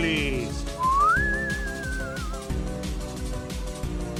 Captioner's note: funni whistle